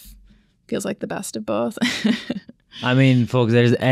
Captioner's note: laughs